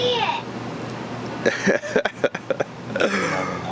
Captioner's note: laughing